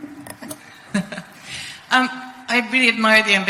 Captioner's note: chuckles